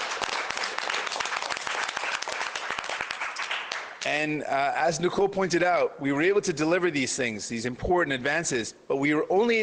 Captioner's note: cheers and Applause